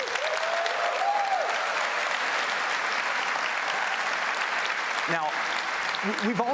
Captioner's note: applause